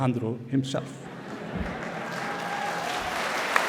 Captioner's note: laughter; applause, cheering